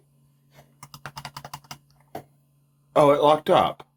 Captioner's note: tapping multiple times on keyboard